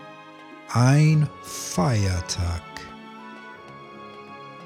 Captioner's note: german